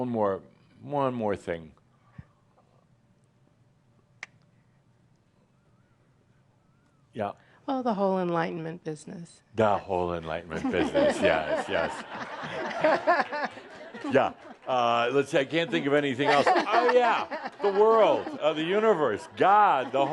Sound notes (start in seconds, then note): 10.5 laughter